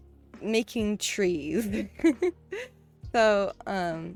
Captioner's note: laughs